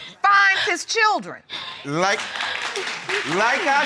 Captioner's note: audience applauding